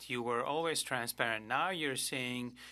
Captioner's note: speaking French